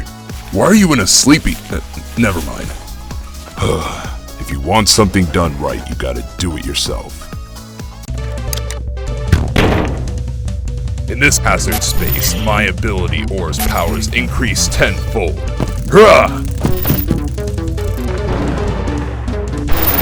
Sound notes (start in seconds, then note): 3.6 sigh